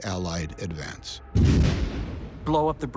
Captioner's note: thunderous explosion